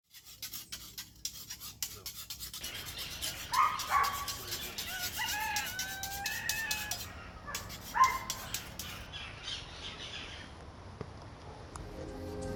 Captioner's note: ambient nature sounds